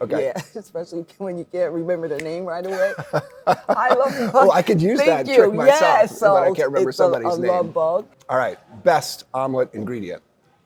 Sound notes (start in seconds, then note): 2.6 laughing